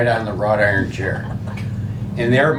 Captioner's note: laughing